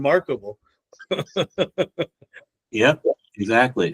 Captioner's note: laughs